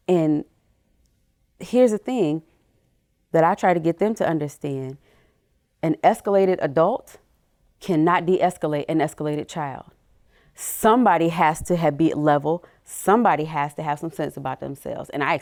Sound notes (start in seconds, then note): none